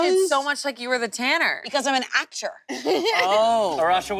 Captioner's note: laughs